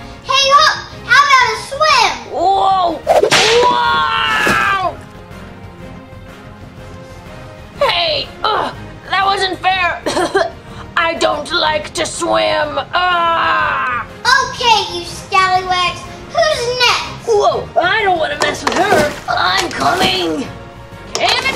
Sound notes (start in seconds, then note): 0.0 yells; 3.2 yells; 3.5 water splashes; 10.0 coughs